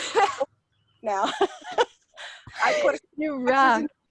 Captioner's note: laughing; laughs